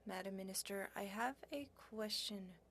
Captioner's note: speaking French